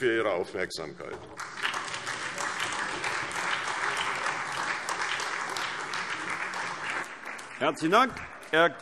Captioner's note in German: Beifall SPD